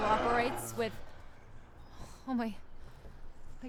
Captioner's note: animal growling